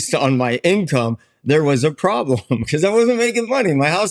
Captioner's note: chuckles